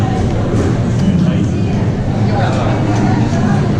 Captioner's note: chattering